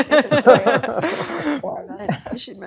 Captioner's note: laughter